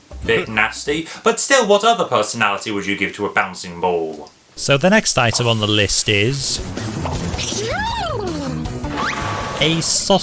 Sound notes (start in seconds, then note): 6.9 train whistle sounds; 7.4 foil yelps